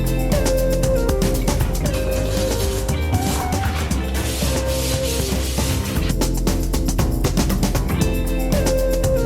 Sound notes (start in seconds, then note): 2.7 bristles scraping; 6.6 upbeat music